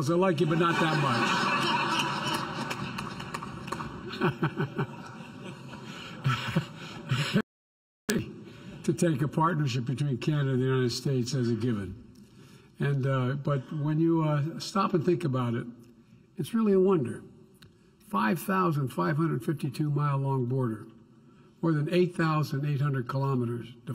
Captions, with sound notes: I like you but not that much. (Laughter.) It can be easy to take a partnership between Canada and the United States as a given. And -- but when you stop and think about it, it's really a wonder. 5,525-mile-long border -- more than 8,800 kilometers --